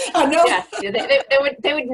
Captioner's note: laughter